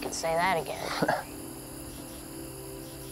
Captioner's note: chuckles